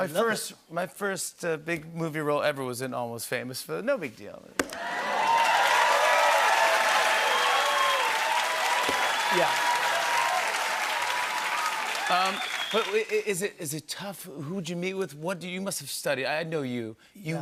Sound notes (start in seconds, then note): 4.5 cheers and applause